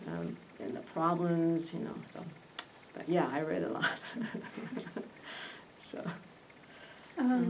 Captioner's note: laughs